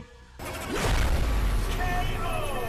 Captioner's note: logo bangs